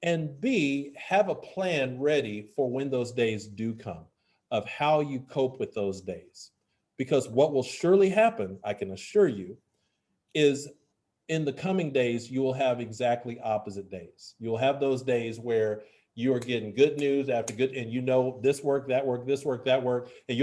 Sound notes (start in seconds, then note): none